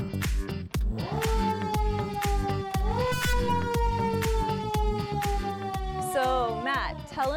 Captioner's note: siren sounding